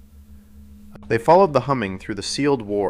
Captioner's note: sound: distant woman humming